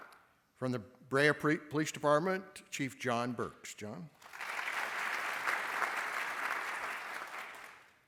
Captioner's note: applause